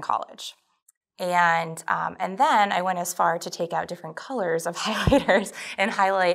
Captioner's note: giggles